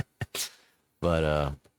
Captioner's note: laughs